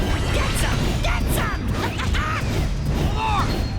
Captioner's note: laughs